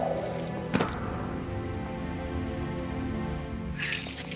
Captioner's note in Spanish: ruido de la bolsa